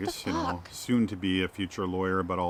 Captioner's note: voiceover